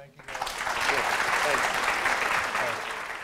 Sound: applause

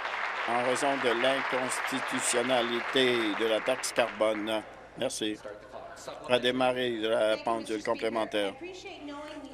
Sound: applause

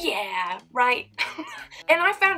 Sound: laughs

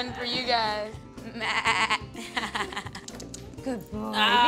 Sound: bahing like a sheep

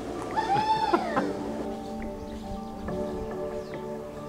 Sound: laughing; gentle pop music

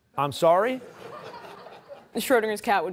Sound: laughter

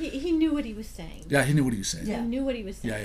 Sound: voiceover

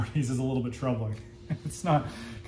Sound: chuckling

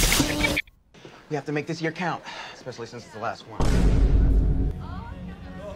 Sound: boom

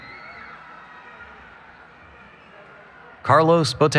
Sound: cheering

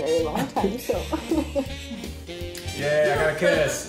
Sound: shushes

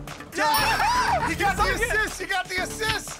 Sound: laughs

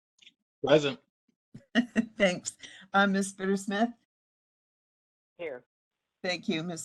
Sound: laugh

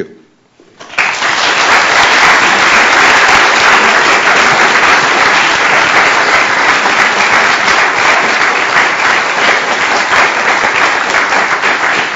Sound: applause

